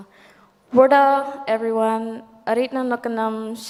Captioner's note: speaks native language